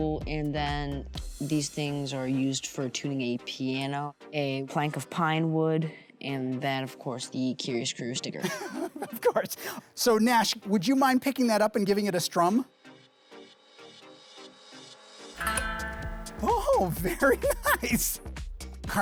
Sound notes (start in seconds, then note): 8.4 laughing; 13.5 upbeat music; 15.4 guitar playing